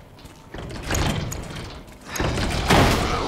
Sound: door Banging

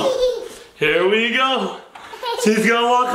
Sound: child laughing

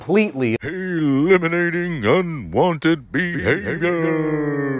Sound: dramatic voiceover

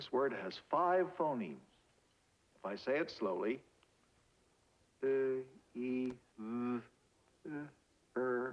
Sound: draws out pronunciation

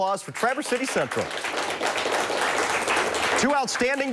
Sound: applause

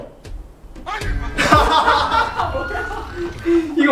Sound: clash

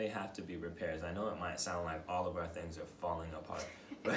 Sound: laughter

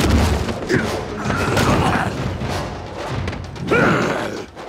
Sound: grunts

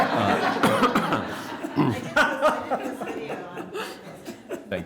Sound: laughter

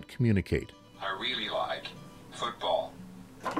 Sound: synthesized male voice

